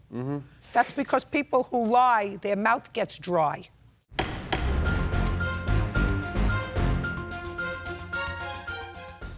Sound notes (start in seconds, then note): 4.1 gavel bangs; 4.2 dramatic music